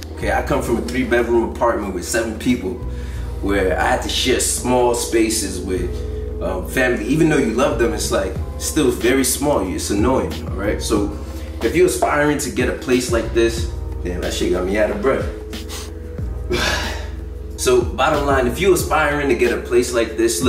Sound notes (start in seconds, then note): 15.5 breathing deeply